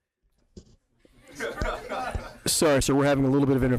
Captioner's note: people laughing